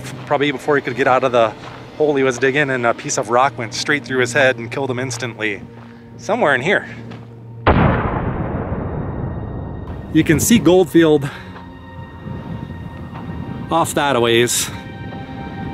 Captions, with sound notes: Probably before he could get out of the hole he was digging and a piece of rock went straight through his head and killed him instantly. Somewhere in here. [Boom!] You can see Goldfield off that aways